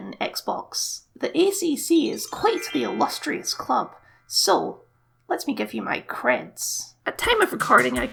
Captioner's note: sparkle Noises